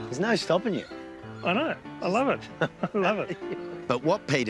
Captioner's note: chuckles